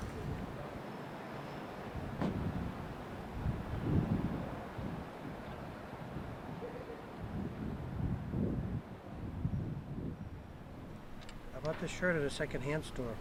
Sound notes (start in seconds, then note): 3.3 wind whipping